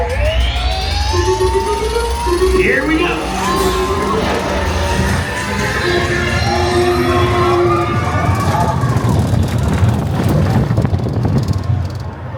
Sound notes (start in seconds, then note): 0.2 bright music; 0.2 coaster clattering; 5.8 coaster roaring